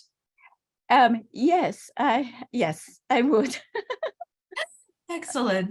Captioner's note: laugh